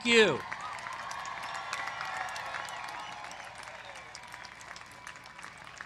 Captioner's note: applause